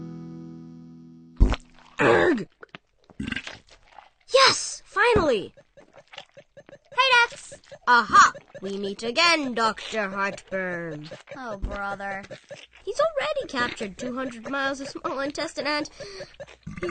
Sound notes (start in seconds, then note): 1.4 digestive sound; 3.3 burp; 6.4 digestive and video game sounds; 16.7 worried